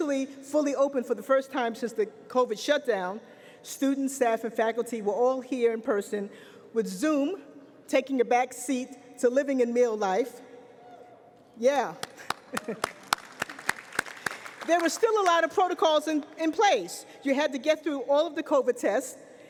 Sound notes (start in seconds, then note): 12.0 applause